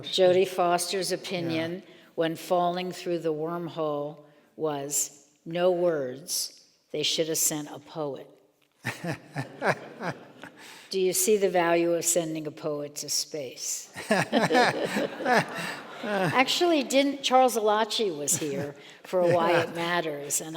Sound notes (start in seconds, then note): 8.8 laughing; 14.0 and audience laughs